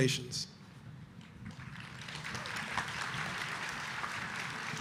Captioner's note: audience applauding